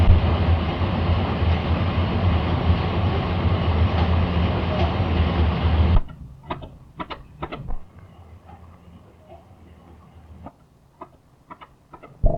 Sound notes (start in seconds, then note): 7.1 engine puttering